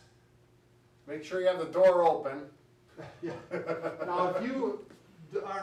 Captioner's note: laughs